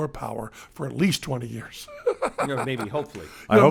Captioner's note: laughs